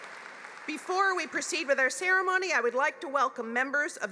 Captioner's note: applause